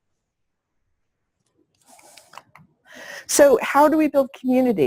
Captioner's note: pause